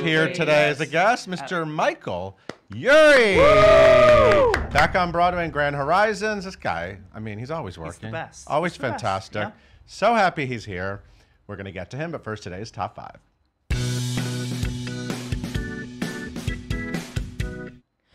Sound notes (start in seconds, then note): 2.9 cheering; 13.7 upbeat music